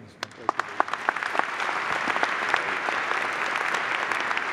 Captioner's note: applause